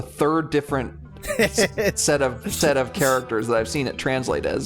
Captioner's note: laugh